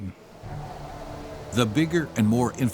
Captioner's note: wind howling